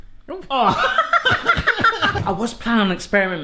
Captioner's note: laughing